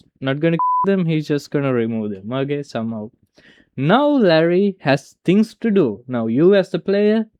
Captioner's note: beep